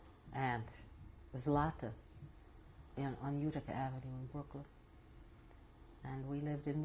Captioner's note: non-english